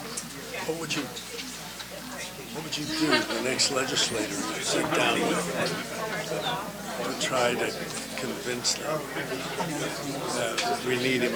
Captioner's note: background conversations